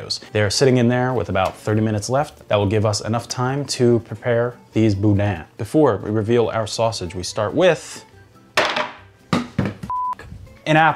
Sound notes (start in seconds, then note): 8.6 apple clattering; 9.9 beep